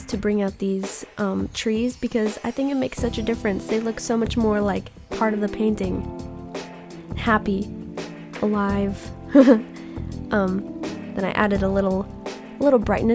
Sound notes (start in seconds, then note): 9.3 laughs